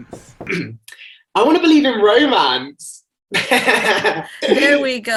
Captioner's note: clears throat; laughs